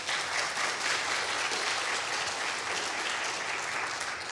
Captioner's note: people clapping